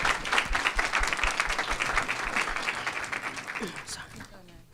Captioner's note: applause